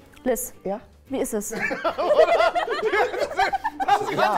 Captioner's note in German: Lachen, ruft etwas